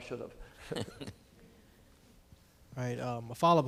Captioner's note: laughing